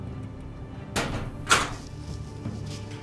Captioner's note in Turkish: Kapı açılma sesi